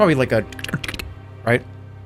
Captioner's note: secret door noises